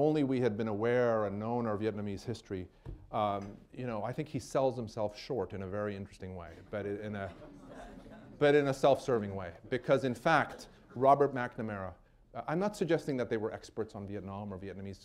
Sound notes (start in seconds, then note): 7.2 laughter